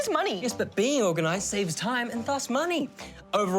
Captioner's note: none